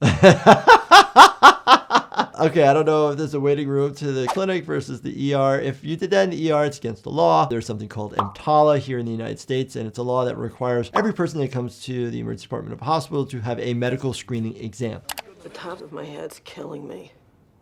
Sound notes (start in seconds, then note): 0.0 laughing; 5.1 air whooshing